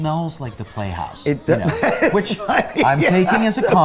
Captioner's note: laughs